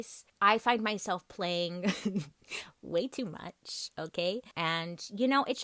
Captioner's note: chuckles